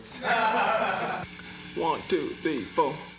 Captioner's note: laughter